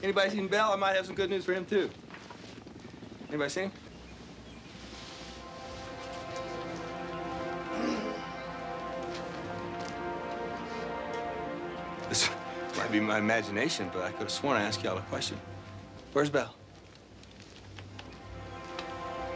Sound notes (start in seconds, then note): 7.7 clears throat